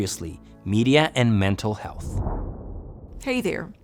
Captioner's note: air whooshing